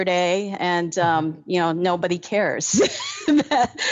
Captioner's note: laughs